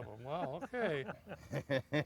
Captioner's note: laughing